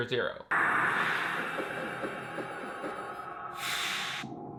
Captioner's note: swooshing sound